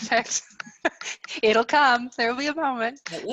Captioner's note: laughs